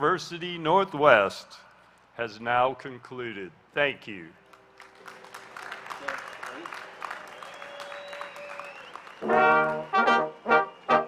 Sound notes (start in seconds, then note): 4.4 applause; 9.2 instrumental music